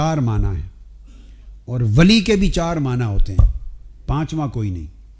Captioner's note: in Arabic; in Arabic